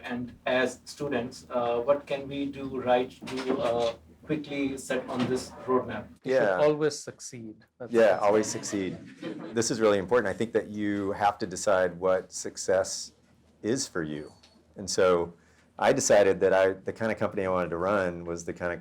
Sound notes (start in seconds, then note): 8.4 audience laughter